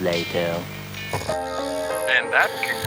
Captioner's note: snoring